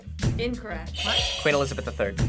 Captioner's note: buzzer rings